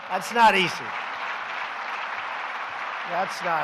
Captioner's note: applause